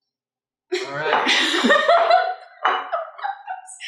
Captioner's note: laughter